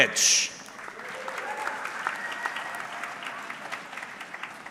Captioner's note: audience clapping